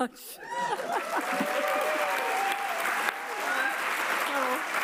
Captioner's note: audience applauds